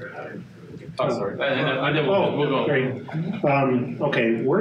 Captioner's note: all chattering in confusion